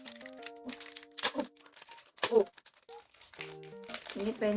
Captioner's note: unwrapping